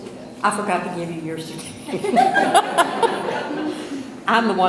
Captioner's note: audience laughs